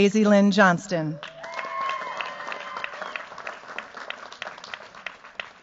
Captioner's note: cheers, applause